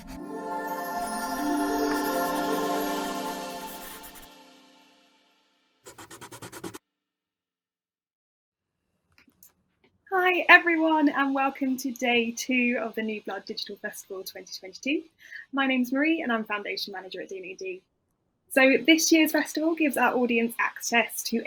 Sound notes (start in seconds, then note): 0.0 mythical music; 5.9 pencil whooshing